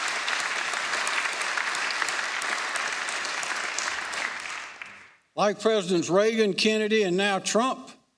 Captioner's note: applause